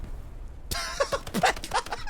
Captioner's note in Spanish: risas